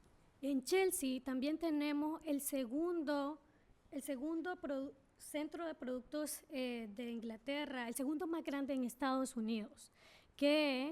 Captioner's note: speaking spanish